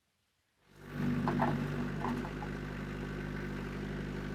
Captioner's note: engine revving